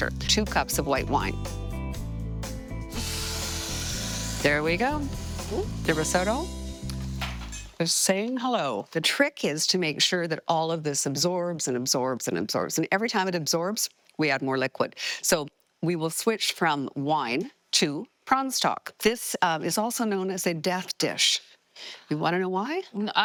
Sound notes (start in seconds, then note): 1.7 bright music; 2.8 pot sizzling